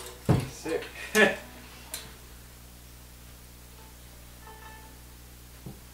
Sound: chuckles; laughs

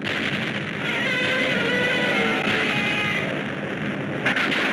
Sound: explosions booming; Gammera roars

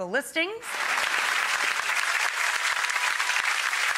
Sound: audience cheers

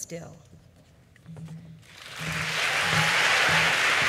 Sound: audience applauds

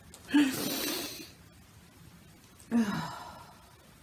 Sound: laughs; long inhale; sighs

